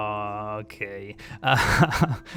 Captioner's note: laughs